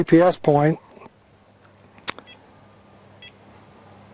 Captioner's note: beeps